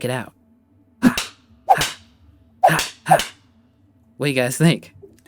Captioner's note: punching noises